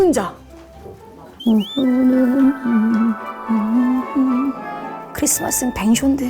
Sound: humming automatically at the thought of the giant

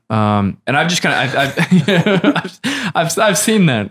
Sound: laughter

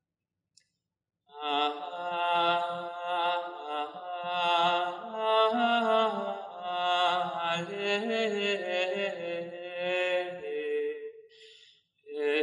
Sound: chant

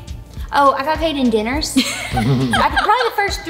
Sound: laugh

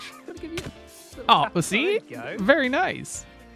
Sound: laughs

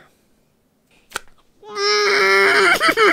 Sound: loud rip

